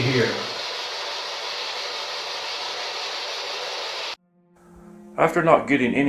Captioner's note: white Noise; eerie Music